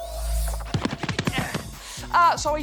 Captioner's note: grunts